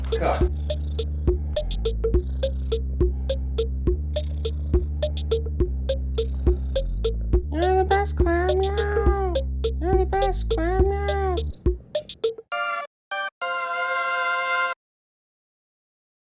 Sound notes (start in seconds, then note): 1.3 Archie purring